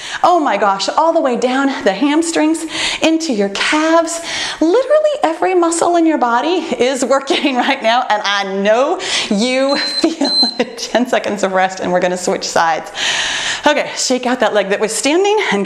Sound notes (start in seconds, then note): 9.6 timer beeping